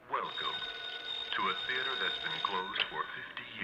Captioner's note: phone ringing